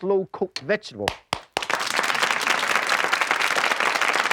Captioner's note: audience clapping